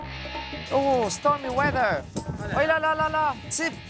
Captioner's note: in English